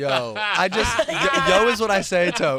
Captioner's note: laughs